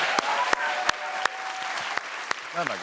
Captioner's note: cheers and applause